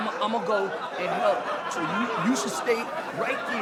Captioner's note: audience laughing